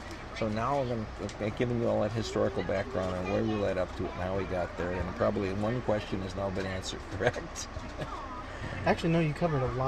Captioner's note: laughs